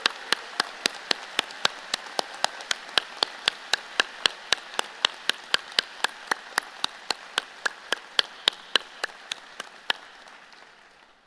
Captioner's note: applause